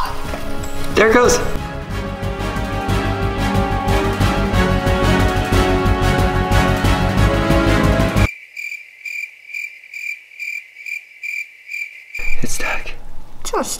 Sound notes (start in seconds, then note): 2.4 dramatic music; 8.2 crickets chirping